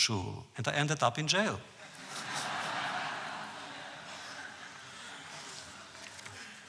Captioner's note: audience laughs